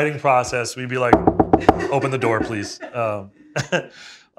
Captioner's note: knuckles rapping